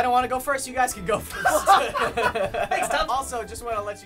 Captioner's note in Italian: risata